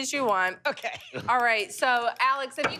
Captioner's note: laughs